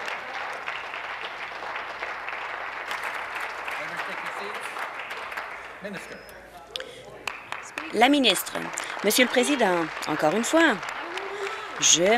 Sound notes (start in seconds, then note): 0.0 applause